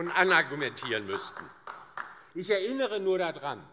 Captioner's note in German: Beifall DIE LINKE